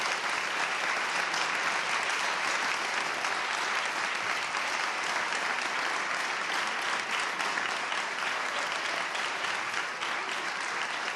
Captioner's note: applause